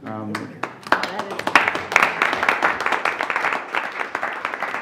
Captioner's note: board members applauding